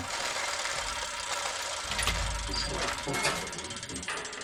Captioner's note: metallic grinding